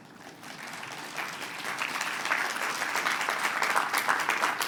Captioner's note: applause